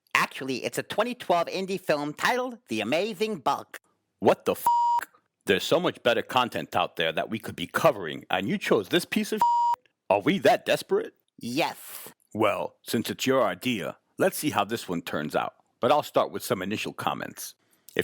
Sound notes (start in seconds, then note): 4.6 beep; 9.4 beep